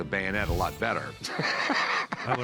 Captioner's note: laughs